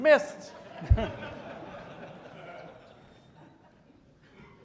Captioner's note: audience laughing